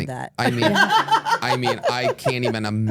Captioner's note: laugh